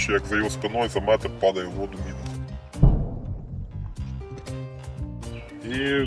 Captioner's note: sounds of mortar fire